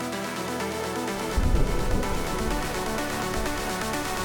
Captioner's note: thunder